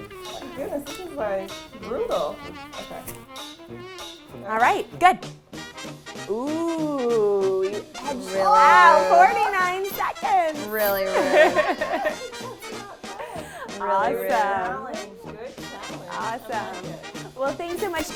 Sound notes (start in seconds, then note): 10.6 laughs loudly